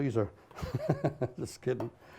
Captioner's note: laughs